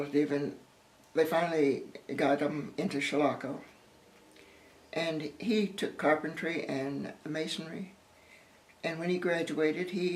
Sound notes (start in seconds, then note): none